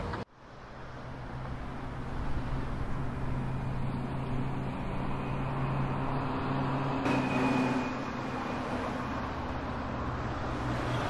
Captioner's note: street noises